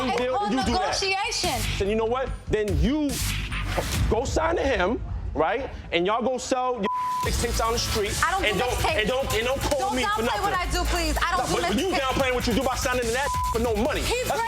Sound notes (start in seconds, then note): 6.8 beep; 13.2 beep